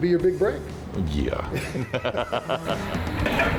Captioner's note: laughs